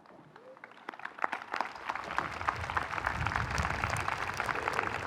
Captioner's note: audience applauding